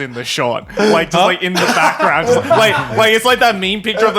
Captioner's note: laughing